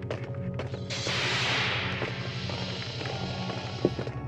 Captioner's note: door whooshes